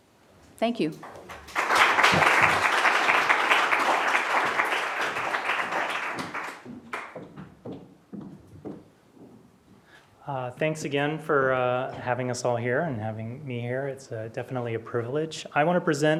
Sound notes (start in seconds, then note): 1.0 applause